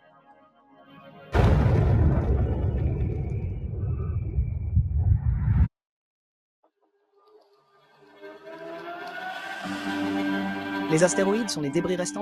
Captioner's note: explosion